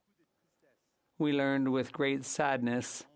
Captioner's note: speaking French